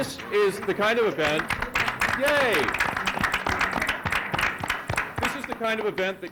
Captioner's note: applause